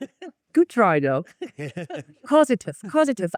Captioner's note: laughs